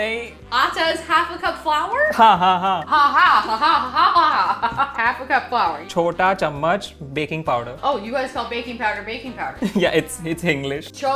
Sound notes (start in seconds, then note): 0.2 speaking in Hindi; 2.2 repeating Hindi; 2.2 speaking in Hindi; 4.5 laughing; 6.2 speaking in Hindi